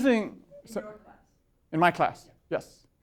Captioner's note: voiceover